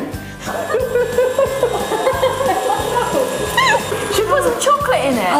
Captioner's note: ladies laughing